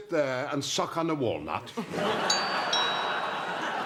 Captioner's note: doorbell